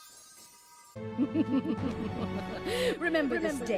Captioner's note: evil Chuckling